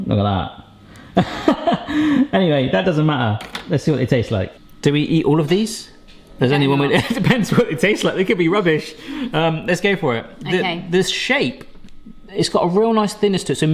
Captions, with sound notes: Look at that. (laughs) Anyway, that doesn't matter. Let's see what they taste like. Do we eat all of these? Does anyone- - Better not. - (laughs) It depends what they taste like, they could be rubbish. Let's go for it. - Okay. - This shape. It's got a real nice thinness to it,